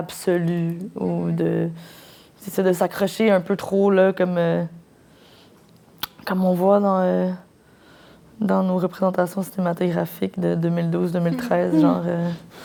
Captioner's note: laughs